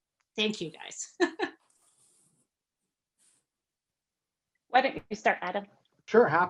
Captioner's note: laugh